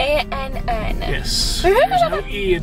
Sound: laughs

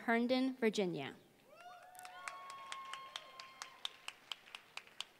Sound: applause

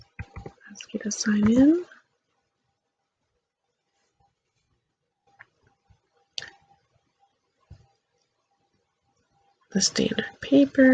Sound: click

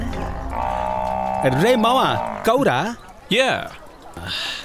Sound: bellows

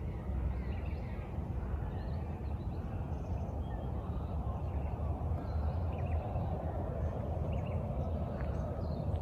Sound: the sound of the bush burbles while traffic hums quietly in the distance

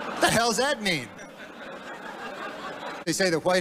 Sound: laughter

